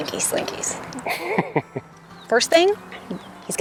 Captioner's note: laughs